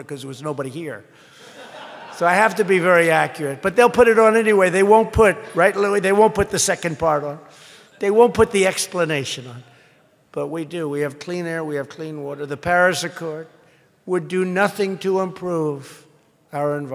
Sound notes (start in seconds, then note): 1.3 laughter